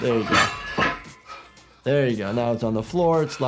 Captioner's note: weights clanking